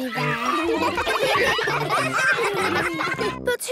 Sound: ruckus

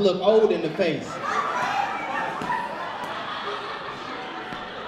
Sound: audience laughs

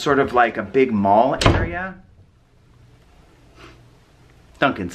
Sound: door slams

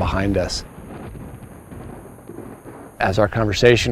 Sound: thunder

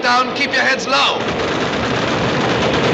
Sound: aircraft flies over

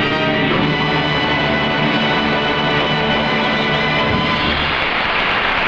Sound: audience clapping

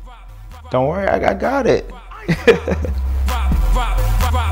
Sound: lively upbeat music; chuckles

